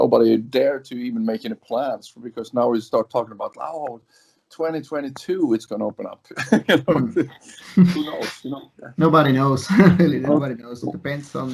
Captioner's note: laughs